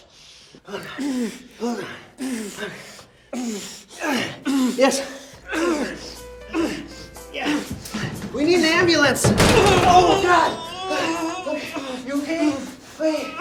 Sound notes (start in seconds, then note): 6.0 light jazzy elevator music; 9.5 Mark thudding; 9.5 Mark groaning